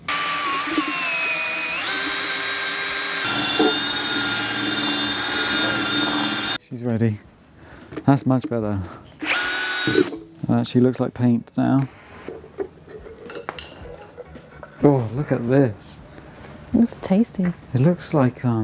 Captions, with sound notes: (drill whirring) She's ready. That's much better. She looks like paint now. Oh, look at this. It's tasty. It looks like,